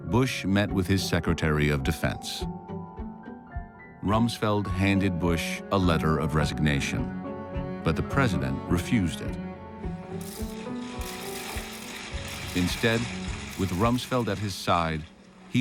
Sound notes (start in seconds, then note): 10.9 cameras clicking